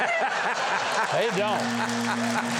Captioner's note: laughs